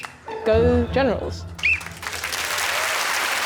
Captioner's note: blows whistle; applause